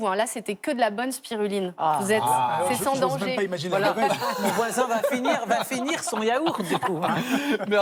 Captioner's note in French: rires